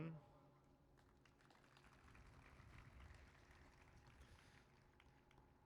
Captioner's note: applause